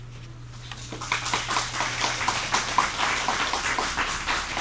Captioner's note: audience applauds